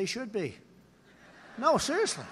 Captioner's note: laughter